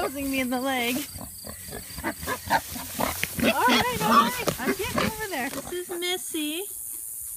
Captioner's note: pigs oink and squeal